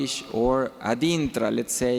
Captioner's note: speaking foreign language